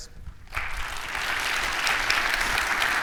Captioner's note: audience applauding